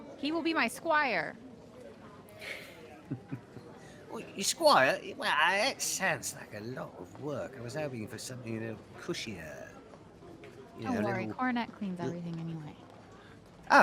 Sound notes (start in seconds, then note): 3.0 laughs